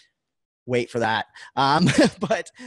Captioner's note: laughs